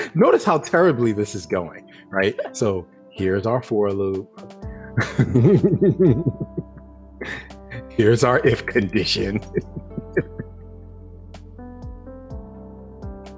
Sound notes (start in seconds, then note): 4.9 laughing